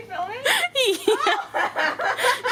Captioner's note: laughing; both laughing